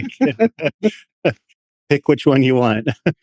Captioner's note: laughter